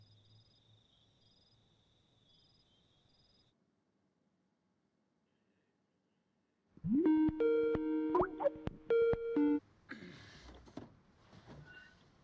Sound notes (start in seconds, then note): 0.0 crickets chirping; 7.0 Skype phone ringing